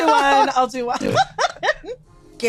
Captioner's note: laughing loudly